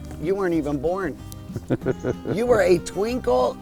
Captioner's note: chuckles